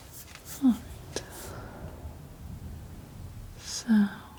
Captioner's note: scratching